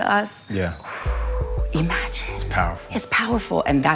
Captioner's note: exhales